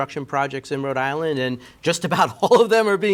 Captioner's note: chuckling